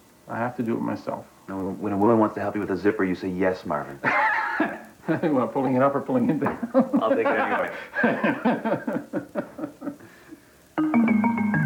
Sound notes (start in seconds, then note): 4.0 laughs; 8.2 laughter